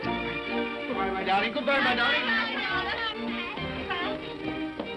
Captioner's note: children clamoring; upbeat music